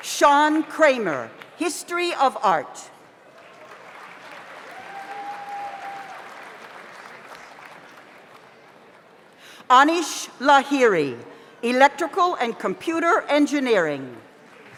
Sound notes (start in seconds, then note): 3.2 audience applauds; 4.5 audience cheers